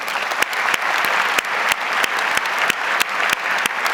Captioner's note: audience applauds